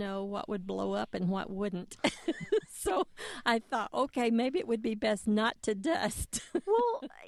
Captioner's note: laughter